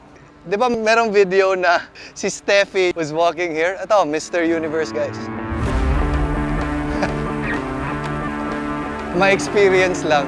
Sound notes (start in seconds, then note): 6.8 laughs